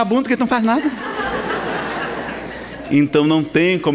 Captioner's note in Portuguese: risadas